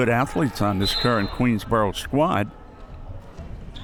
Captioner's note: whistle